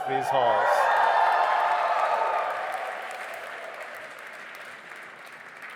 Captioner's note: audience applauding and cheering